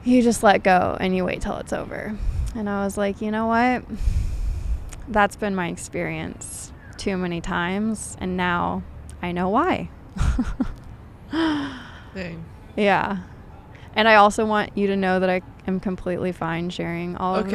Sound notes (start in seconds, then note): 10.2 laughs